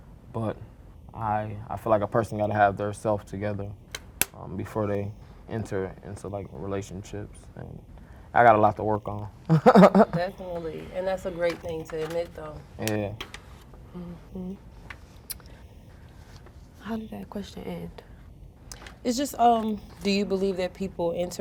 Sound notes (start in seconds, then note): 9.4 chuckles